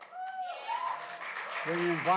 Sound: applause

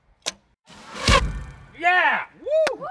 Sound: thwack

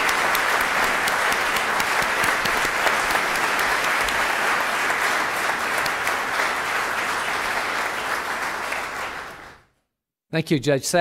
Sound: applause

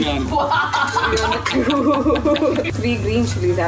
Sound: laughs

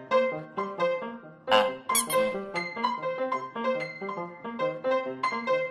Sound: toy squeaks softly; jaunty piano music

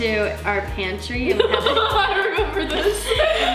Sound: laughs

